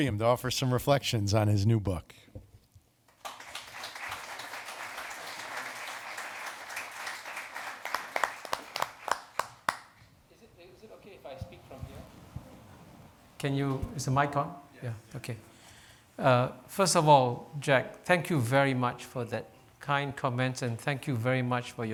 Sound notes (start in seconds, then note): 3.0 audience clapping